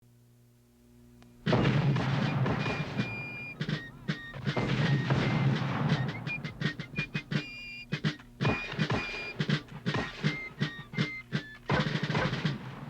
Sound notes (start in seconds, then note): 1.1 patriotic fife and drum music; 4.4 mortar fire booming; 8.5 musket fire popping